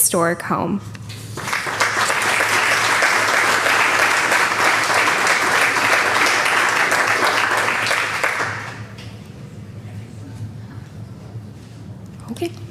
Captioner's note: applause